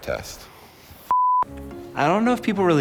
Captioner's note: beep